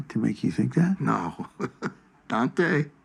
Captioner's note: chuckles